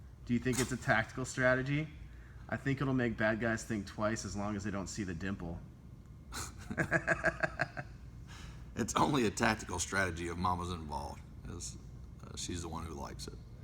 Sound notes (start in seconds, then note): 6.6 laughter